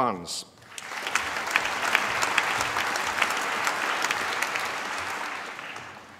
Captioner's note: applause